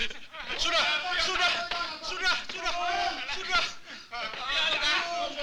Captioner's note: Malay spoken audio